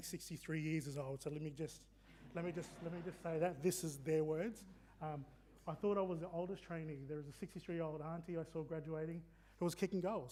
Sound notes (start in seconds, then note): 3.6 audience laughing